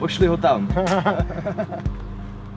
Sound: laughs

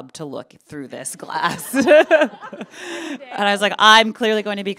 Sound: chuckles

